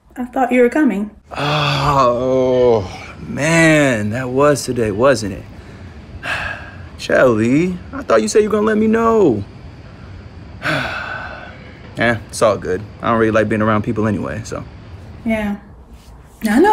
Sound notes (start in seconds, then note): 6.2 Aaron sighs; 10.6 Aaron sighs